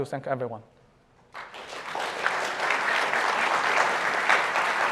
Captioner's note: applause